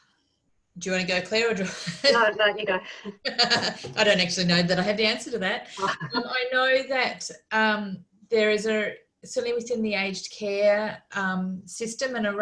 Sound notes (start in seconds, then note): 1.7 laughs